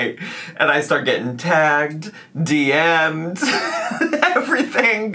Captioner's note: laughs